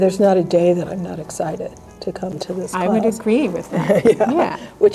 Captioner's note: laughter